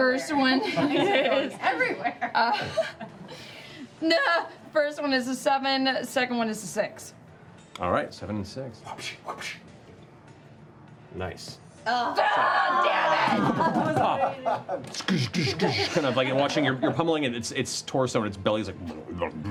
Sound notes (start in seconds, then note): 12.0 yelling; 18.2 jiggling